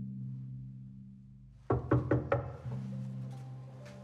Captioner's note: suspenseful music; knocks